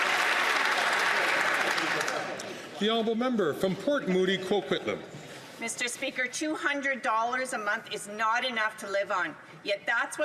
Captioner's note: some Applause